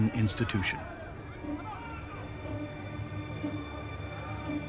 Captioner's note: distant shouting